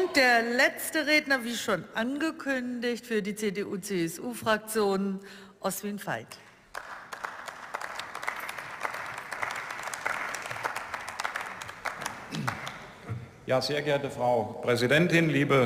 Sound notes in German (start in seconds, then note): 6.4 Beifall